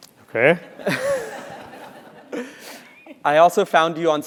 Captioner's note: laugh